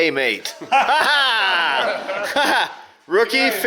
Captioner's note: laughing